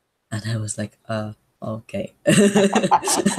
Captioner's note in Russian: скептично